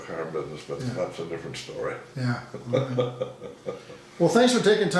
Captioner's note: laughing